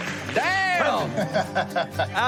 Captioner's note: laughs